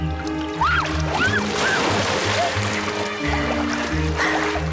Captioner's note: Fancy shrieks